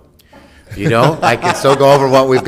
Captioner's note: laughing